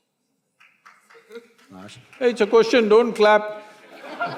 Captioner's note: laughter; laughs